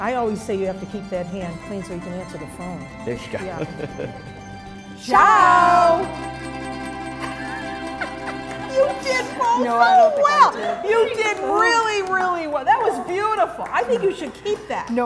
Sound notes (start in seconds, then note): 7.3 Mary laughing